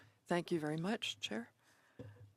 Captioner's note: speaking French